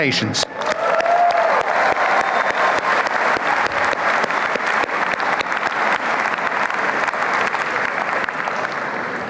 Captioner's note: applause